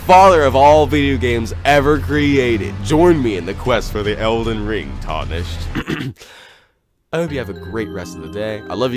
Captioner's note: clears throat